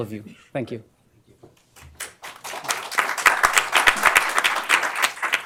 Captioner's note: applause